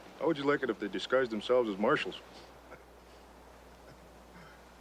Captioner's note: laughs